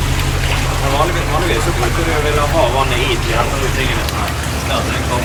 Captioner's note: chatting